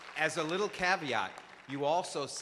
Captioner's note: applause; voiceover